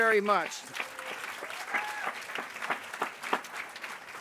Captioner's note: applause